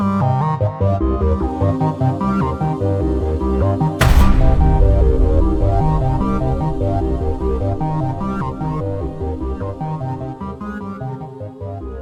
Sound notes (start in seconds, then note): 4.0 thud echoes